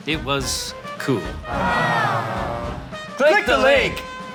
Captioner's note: crowd sighs in comfort